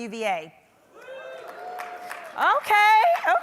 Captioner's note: audience applause